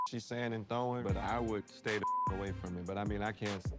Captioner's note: beep